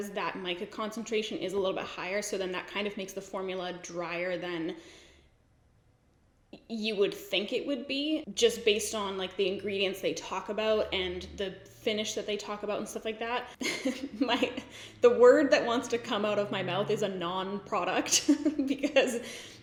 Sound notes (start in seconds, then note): 13.6 giggles; 18.2 giggles